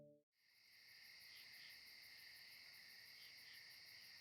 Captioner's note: insects chirping